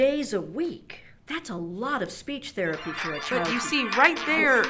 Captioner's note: phone rings